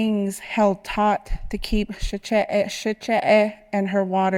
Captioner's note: speaking Navajo